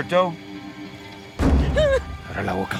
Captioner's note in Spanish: Quejido